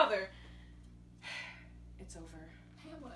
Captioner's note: sigh